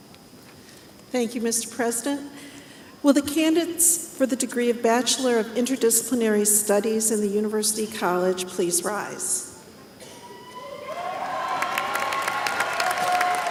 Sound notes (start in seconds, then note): 10.8 applause